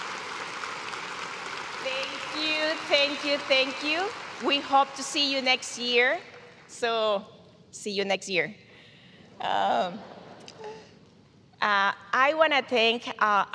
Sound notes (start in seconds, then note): 0.0 cheers and applause